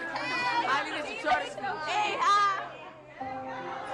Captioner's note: kids chattering